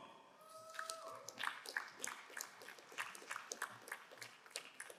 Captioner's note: crowd applauding